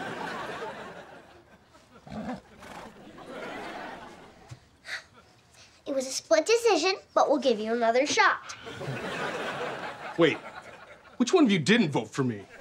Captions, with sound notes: [neighing] It was a split decision, but we'll give you another shot. Wait, Which one of you didn't vote for me?